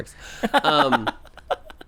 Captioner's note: laughs